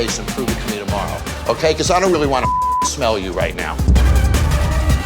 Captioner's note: beep